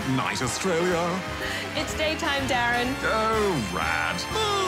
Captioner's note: cheering, applause